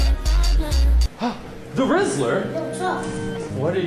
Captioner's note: gasps